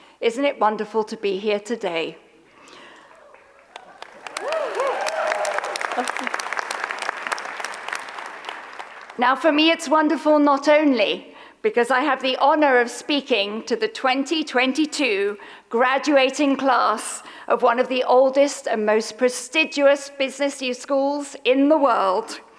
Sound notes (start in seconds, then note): 3.2 audience applauds; 3.2 audience cheers